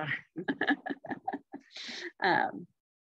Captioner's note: laughter